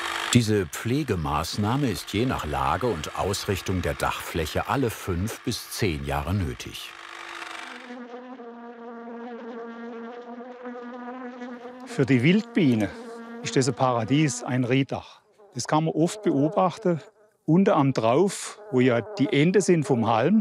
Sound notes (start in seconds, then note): 7.7 bees buzzing